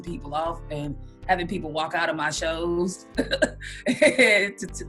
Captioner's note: laughs